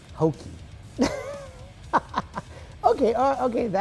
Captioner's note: laughs